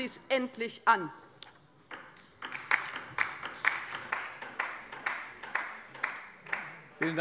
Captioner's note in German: Beifall bei der LINKEN